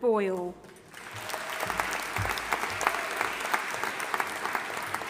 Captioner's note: audience applauding